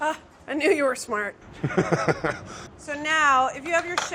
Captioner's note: laughing